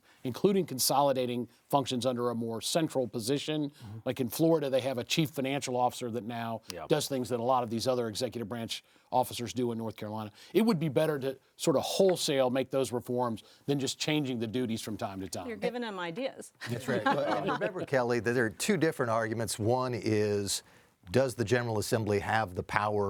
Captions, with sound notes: including consolidating functions under a more central position. Like in Florida, they have a chief financial officer that now does things that a lot of these other executive branch officers do in North Carolina. It would be better to sort of wholesale make those reforms than just changing the duties from time to time. - You're giving him ideas. [laughing] - That's right. - Remember, Kelly, that there are two different arguments. One is, does the General Assembly have the power